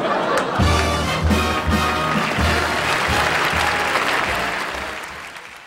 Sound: orchestral show music; audience applauding

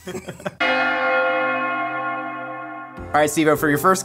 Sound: bells Ringing

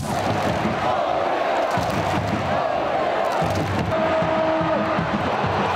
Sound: fans clapping and chanting: "Oviedo! Oviedo!"

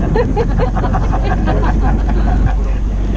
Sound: laughing

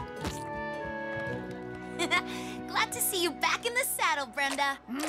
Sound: chuckles

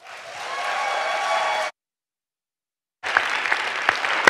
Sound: audience clapping

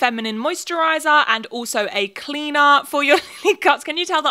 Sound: laughs

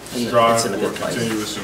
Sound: overlapping chattering

